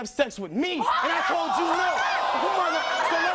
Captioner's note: screaming